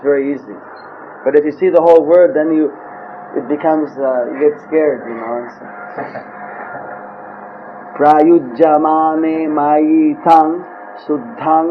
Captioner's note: chuckles